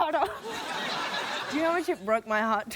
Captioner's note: laughter